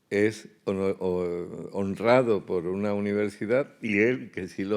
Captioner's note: speaking in Spanish